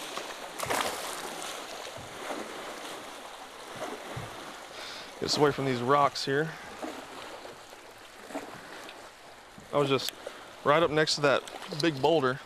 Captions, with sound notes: [Splash] [Waves] let's get away from these rocks here. that was right up next to that big boulder